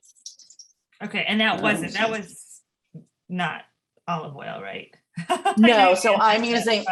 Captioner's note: laughs